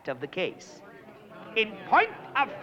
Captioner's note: all murmuring